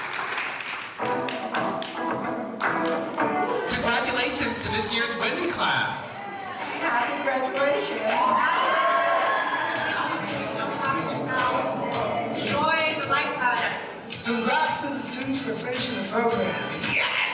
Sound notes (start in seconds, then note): 7.6 audience applauding over